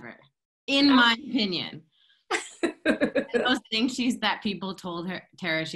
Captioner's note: laughter